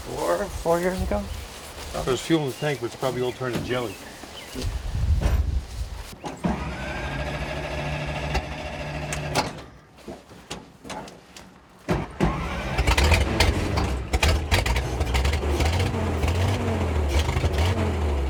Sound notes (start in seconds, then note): 6.3 car engine whining; 12.2 car engine revving